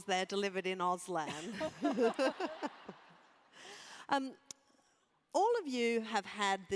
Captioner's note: laugh